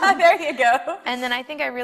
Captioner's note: laughs